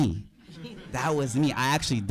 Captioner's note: audience laughing